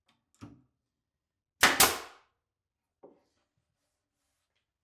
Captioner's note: nailgun firing